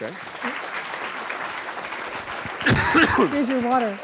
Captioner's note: applause